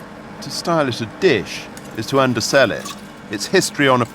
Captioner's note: none